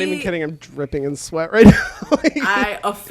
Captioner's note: laughs